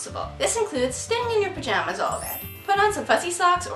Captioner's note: success trill